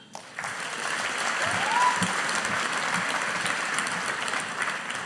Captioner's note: audience applauding